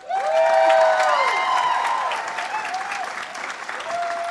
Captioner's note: audience cheers